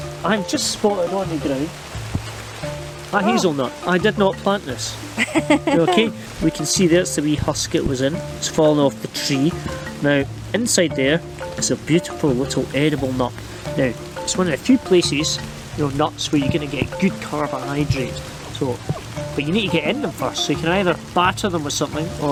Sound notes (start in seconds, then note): 5.1 laughing